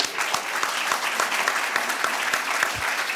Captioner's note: applause